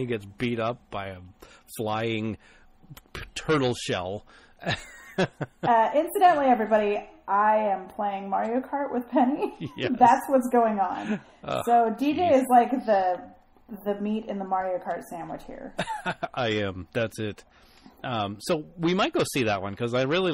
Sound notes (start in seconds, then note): 4.6 DJ laughs; 9.4 both laugh